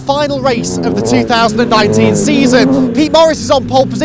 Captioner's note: engines roaring